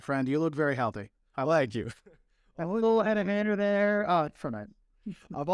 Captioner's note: laughter